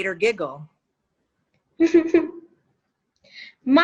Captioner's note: giggles